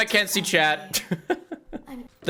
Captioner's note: laughs